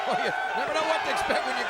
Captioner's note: laughs